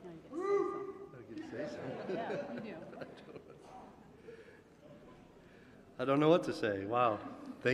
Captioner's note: laughter